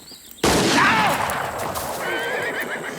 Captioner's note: horse neighs; gun fires; Anthony screams; horse neighs